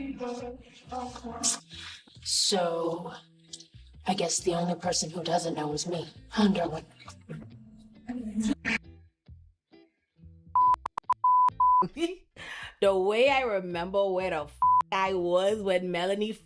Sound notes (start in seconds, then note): 8.5 buzzer; 10.5 beep; 14.6 beep